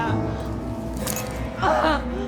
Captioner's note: hand thuds; Dorothy groaning